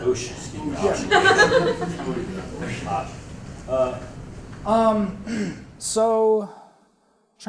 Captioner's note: laugh